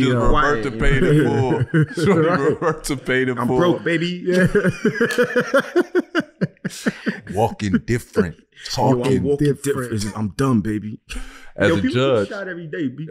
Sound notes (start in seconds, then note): 4.6 group laughing